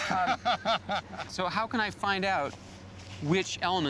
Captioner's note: laughs